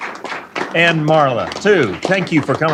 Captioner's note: applause